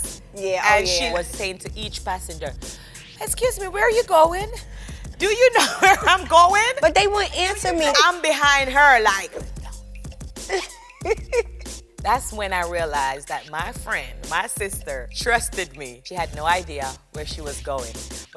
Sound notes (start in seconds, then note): 9.5 whispers; 10.4 Karlie laughs